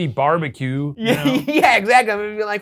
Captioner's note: laughs